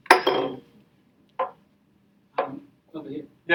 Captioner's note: glass dropping